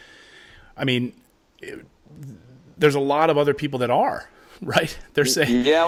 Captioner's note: chuckling